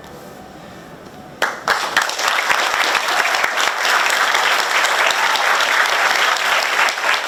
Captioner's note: audience clapping; both men clapping